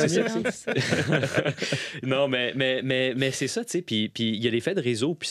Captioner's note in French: rires